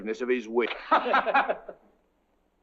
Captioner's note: laughing